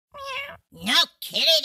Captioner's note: meow